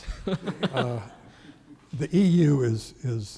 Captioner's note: audience laughing